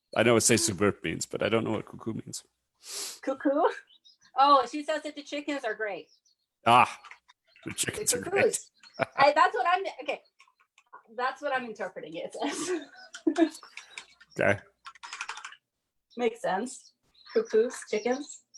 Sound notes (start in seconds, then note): 7.5 laughs; 12.3 chuckles